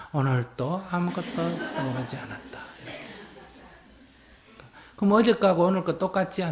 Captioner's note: laughter